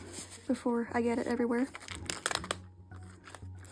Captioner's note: page crackle